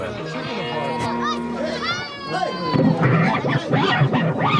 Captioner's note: chatter